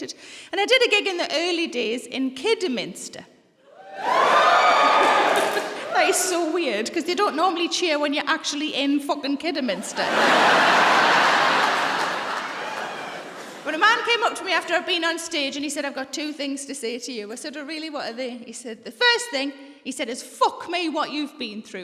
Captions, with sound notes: And I did a gig in the early days in Kidderminster. (CHEERING) That is so weird cos they don't normally cheer when you're actually in f***ing Kidderminster. (LAUGHTER) But a man came up to me after I'd been on stage and said, "I've got two things to say to you." I said, "Oh, what are they?" He said, "The first thing is, f*** me, what you've been through."